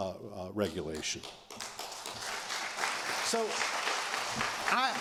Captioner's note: applause